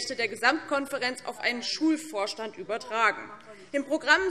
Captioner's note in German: none